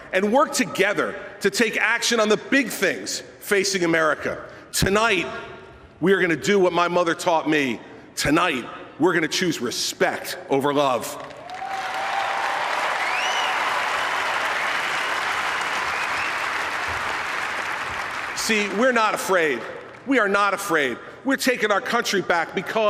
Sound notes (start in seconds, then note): 16.6 applause